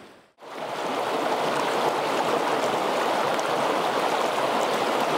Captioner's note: water pattering and bubbling